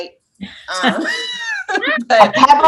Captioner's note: laughs